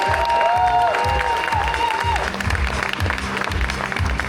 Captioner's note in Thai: เสียงเชียร์; ปรบมือ